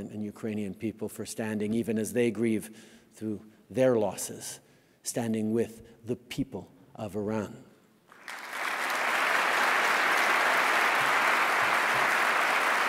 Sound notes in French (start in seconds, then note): 8.0 Applaudissements